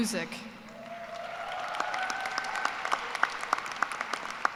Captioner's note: cheers and applause